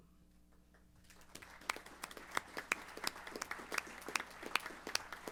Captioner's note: applause